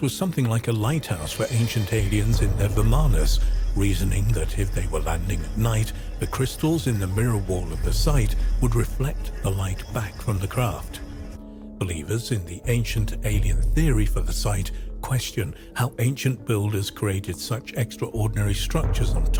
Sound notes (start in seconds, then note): 3.0 energy pulsating